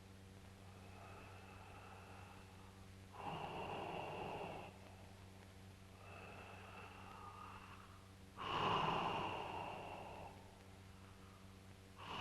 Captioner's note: sound of labored breathing